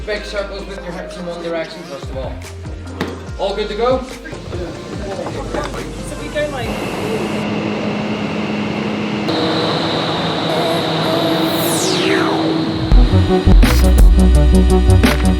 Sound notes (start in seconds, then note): 6.9 air blowing; 11.0 electronic music